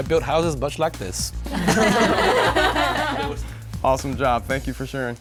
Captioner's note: laughing